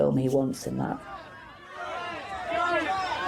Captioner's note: press calling out at once